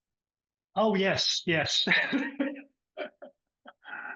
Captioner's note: laughs